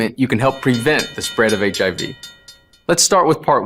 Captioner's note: bell chimes loudly